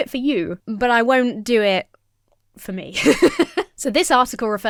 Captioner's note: laughs